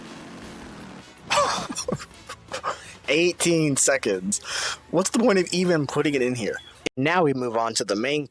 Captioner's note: laugh